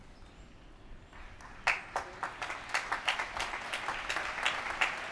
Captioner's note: applause